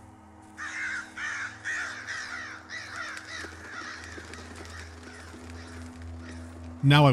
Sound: crows taking off with cawing and flapping of wings

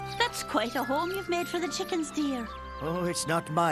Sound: cheep cheep cheep

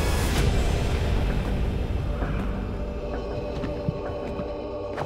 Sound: wings flapping slowly

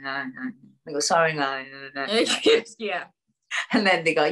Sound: laughs

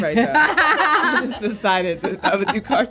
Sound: laughter

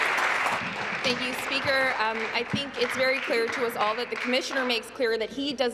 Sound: applause

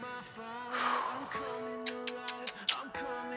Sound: Amber exhales and kisses smack

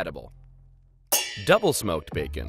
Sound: pans clanging

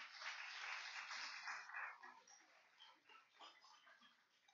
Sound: applause

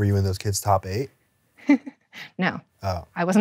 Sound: chuckles

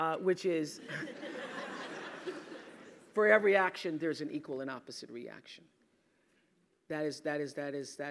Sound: laugh

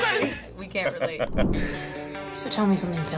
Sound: laughs

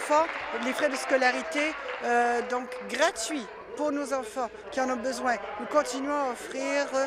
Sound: applause

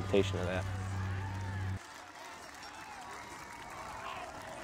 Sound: cheering

